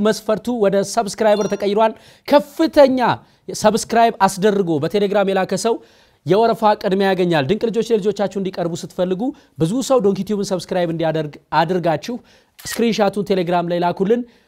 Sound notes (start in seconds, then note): none